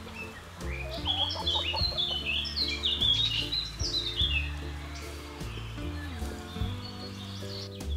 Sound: chickens cluck and scratch

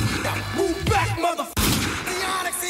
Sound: shot fires

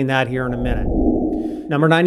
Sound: frame whooshing

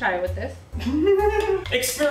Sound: nervous Laughter

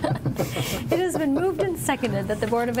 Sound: laughing

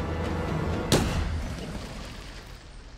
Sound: gunshot

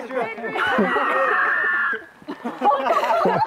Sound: unidentified animal scream

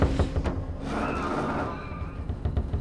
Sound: screech

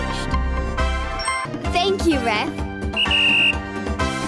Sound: upbeat music; whistle blowing

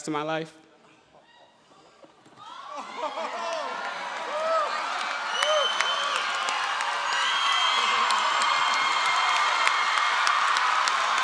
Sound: applause

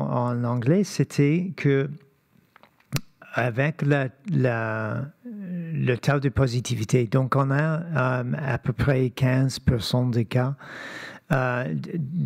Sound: speaking French

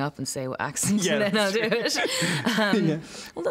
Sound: laughs

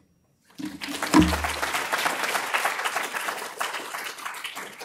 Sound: applause

